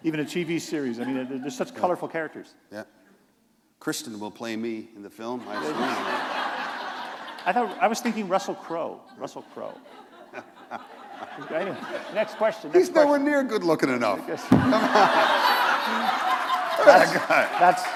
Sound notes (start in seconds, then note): 5.4 laughter